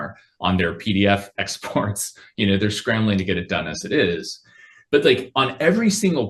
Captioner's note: laughs